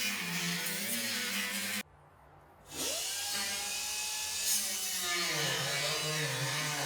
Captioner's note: metal grinder